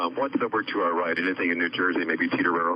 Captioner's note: men chattering